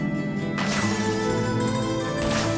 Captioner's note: gunfire